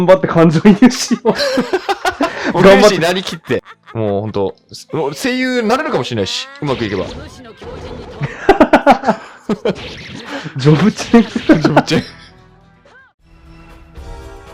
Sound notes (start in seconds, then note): 0.8 laughs; 9.6 both laughs